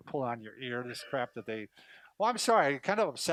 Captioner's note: laughs